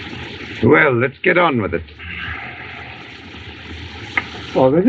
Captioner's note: speaking Native Language